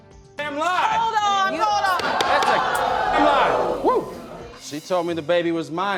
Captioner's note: audience gasping